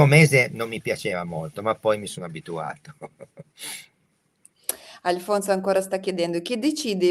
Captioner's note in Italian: sbuffare